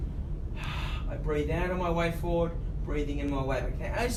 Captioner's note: exhales